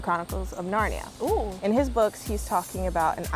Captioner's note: exclaiming in surprise